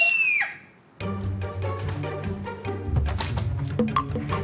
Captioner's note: The Ahn Jeo Jang NPC screams on cue